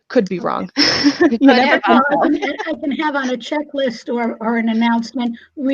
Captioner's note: laughs